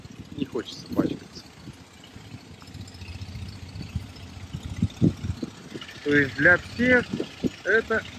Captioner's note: engine running